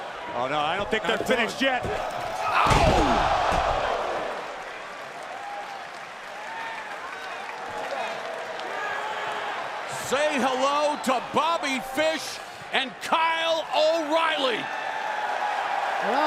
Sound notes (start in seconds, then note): 4.5 crowd cheering